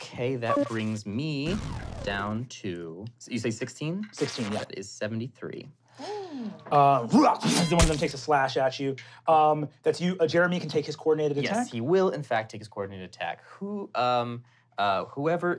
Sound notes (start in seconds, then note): 7.6 groans; 7.7 slices